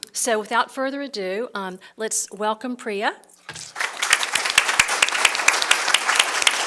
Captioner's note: applause